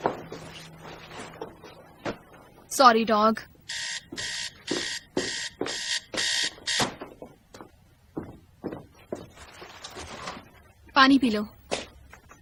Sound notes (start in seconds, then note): 3.6 timer buzzing